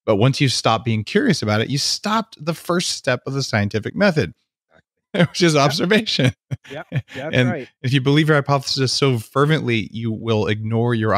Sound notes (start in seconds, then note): 5.2 laughing